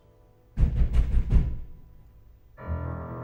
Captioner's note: knock on the door